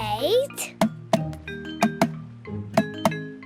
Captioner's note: tapping